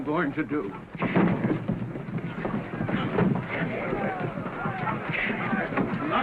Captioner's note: sound of fight - fuss